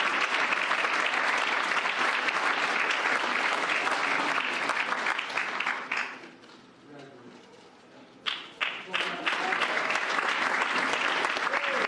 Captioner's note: cheers and applause